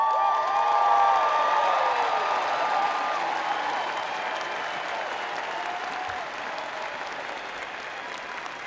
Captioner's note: cheering and applause; applause